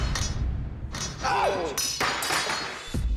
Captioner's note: yelps